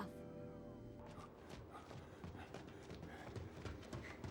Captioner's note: panting